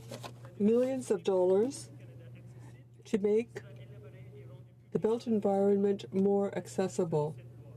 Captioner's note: speaking in french